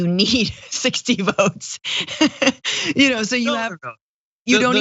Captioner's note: laugh